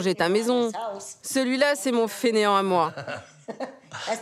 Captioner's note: laughs